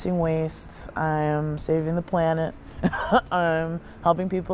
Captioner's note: laughs